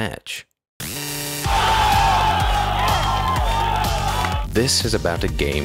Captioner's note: crowd cheering